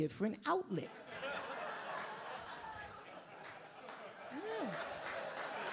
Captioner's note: audience laughing